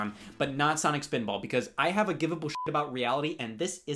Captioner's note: beep